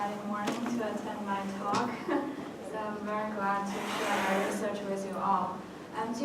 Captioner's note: laugh